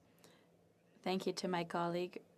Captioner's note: speaking French